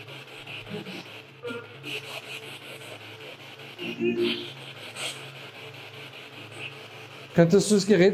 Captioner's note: radio noise from the spirit box